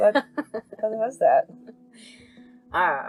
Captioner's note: laughs